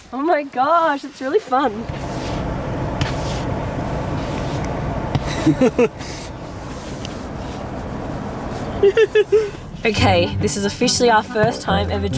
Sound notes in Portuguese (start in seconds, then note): 5.2 rindo